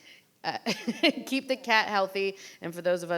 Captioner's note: laughs